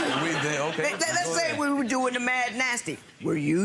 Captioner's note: audience laughs